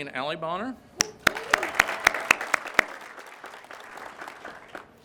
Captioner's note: crowd claps